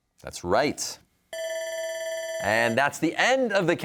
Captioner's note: bell ringing